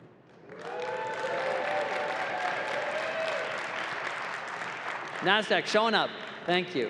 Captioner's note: applause